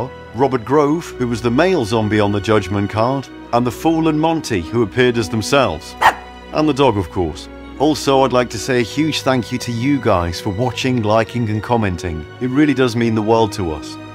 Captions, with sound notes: Robert Grove, who was the male zombie on the Judgement card. and The Fool and Monty, who appeared as themselves. [ BARK ] and the dog, of course. Also I'd like to say a huge thank you to you guys for watching, liking and commenting. It really does mean the world to us